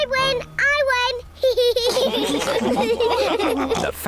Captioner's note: all laugh